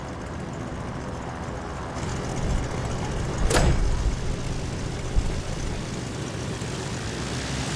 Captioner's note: none